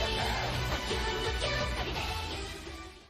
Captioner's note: ♡ thump thump thump ♡